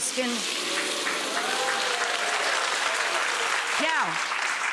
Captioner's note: applause